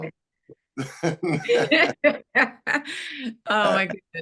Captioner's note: laughter